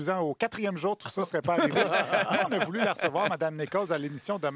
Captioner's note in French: rires